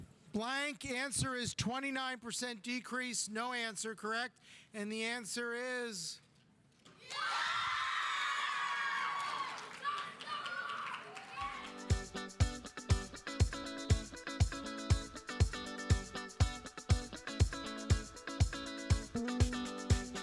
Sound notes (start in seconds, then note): 7.0 audience cheering; 8.0 audience applauding; 10.0 students yelling; 11.7 uptempo music